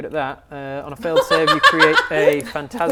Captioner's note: laughs